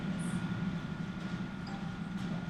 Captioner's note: phone dings